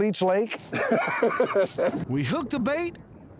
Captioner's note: laughing